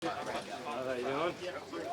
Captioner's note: crowd chatters